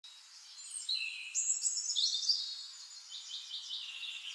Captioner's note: birds chirping